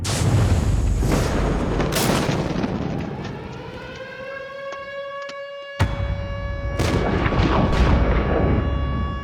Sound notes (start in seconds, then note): 0.1 intense music playing; 3.5 sirens blaring